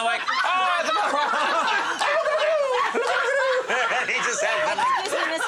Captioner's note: crowd laughs